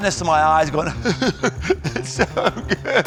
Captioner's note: sobbing